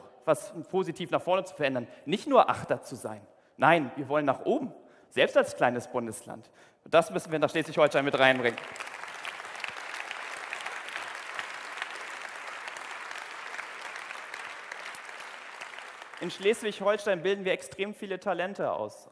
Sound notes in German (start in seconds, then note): 7.8 Applaus